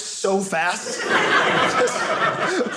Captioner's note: audience laughing